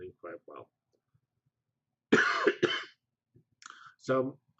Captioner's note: pause